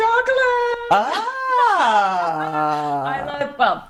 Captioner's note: laughing